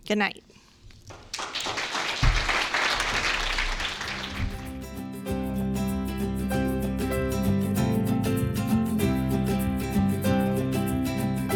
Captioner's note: applause